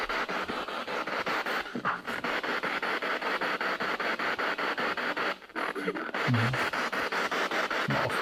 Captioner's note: radio noise from the spirit box